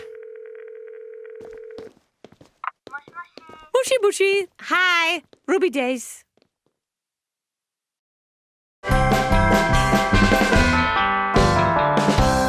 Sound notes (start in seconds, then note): 0.0 phone ringing; 2.5 on phone; 3.0 speaking Japanese